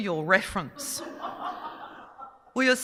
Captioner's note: audience laughing